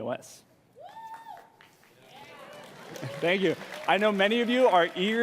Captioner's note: cheering and Applause